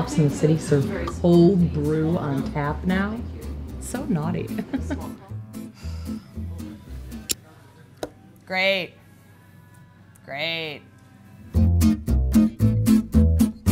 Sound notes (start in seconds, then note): 5.7 sighing; 11.5 playful guitar music